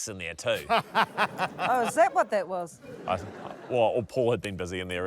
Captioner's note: laughs